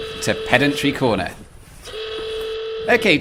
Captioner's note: pedantry klaxon